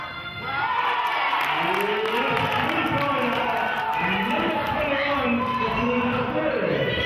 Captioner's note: cheering and clapping